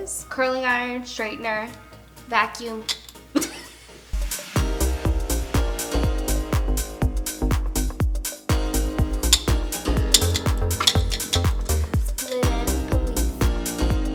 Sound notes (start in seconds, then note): 3.3 laughs; 4.7 energetic music